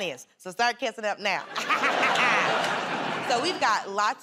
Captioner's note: laughter